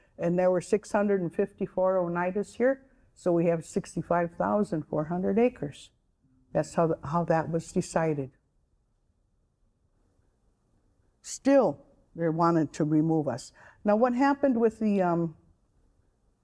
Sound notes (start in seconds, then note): none